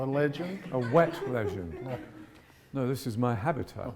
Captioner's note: audience giggles